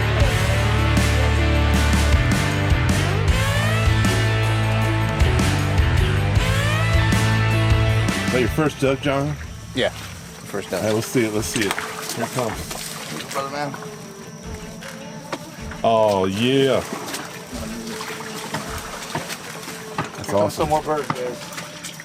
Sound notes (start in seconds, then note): 0.0 upbeat guitar rock music; 12.1 water splashing; 18.0 water splashing; 21.8 indistinct chatting; 21.8 waster splashing